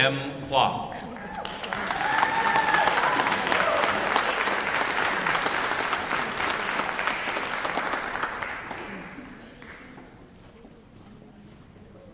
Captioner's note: applause